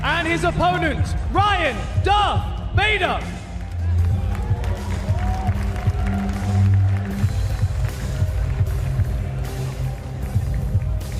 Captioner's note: cheers and applause